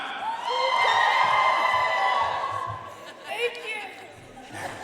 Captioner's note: audience cheering and applauding; participants laughing